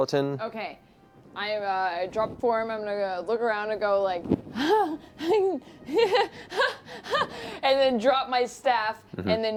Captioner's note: nervous laughter